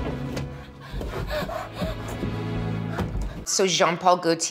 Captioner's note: gentle string music; Leeloo panting frantically